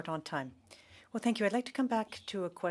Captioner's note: speaking French